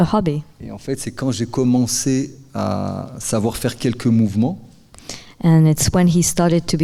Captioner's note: speaking in French